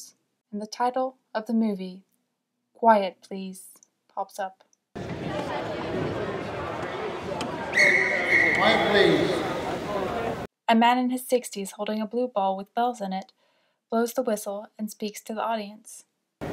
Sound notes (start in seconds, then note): 4.9 sound of crowd; 7.6 whistle blows